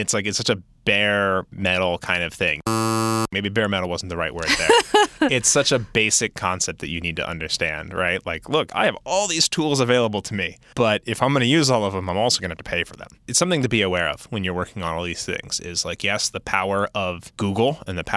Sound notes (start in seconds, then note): 2.6 buzz; 4.5 laughing